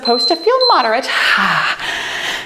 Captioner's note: timer beeps